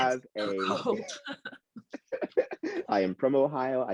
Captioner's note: both laugh